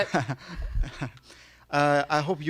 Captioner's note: laughs